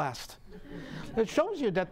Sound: audience laughing

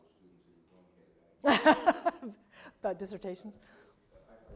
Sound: laughter

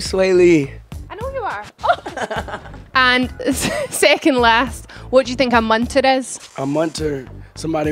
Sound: laughs

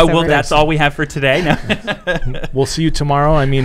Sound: laughing

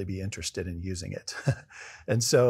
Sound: laugh

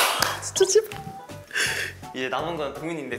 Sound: exhilarated

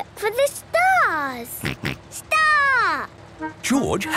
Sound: snort

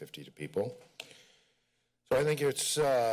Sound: pause

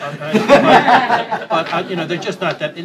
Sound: laughter

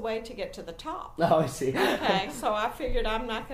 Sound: laughing

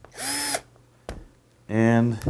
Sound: drill whirring

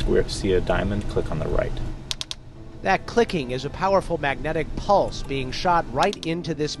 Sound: clicking sound

